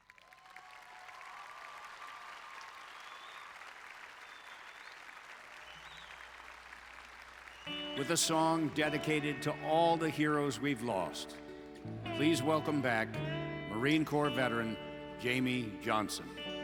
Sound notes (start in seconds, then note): 2.1 applause